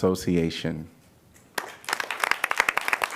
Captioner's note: applause